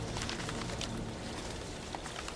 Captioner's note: paper rustling